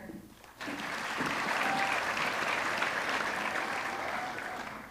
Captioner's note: audience clapping